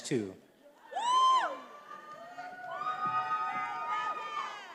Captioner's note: attendees cheering